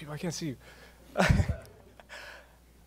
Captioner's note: laughs